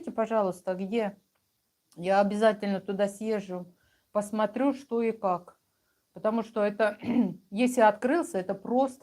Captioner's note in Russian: откашливается